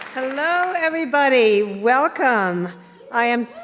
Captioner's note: applause